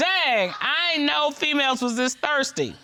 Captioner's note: judge dana reading